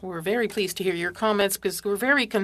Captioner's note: speaking French